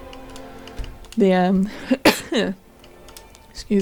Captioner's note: cough